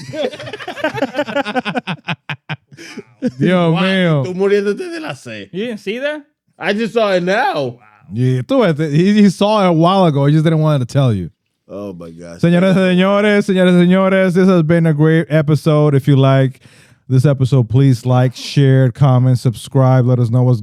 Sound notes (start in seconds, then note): 0.0 laughing; 4.8 speaking In Foreign Language; 12.4 speaking In Foreign Language